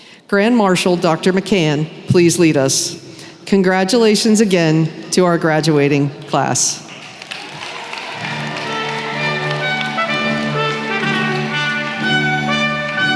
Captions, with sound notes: Grand Marshal Dr. McCann, please lead us. Congratulations again to our graduating class! [cheering & applause]